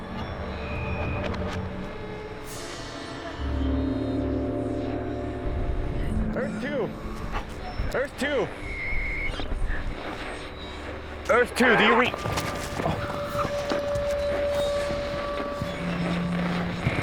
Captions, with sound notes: Earth two, Earth two, Earth two do you read (radio crackling)